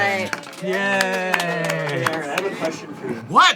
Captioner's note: unenthusiastically